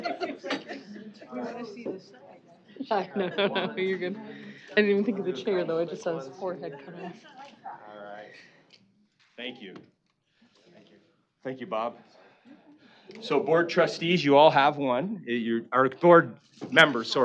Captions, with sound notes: [laughing] [indistinct chatter] [chuckling] - No, no, you're good. I didn't even think of the chair, though. I just saw his forehead cut off. - All right. Thank you. - Thank you. - Thank you, Bob. So, board trustees, you all have one-- or board members.